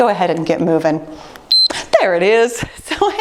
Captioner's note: timer beeps